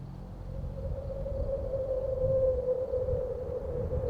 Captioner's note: wind howling